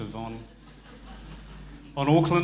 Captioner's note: audience laughing